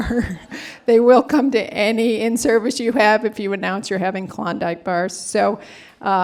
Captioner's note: laughter